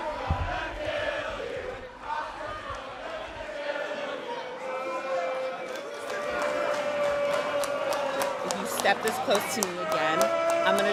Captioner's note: crowd cheering